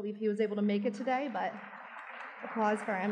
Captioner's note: audience clapping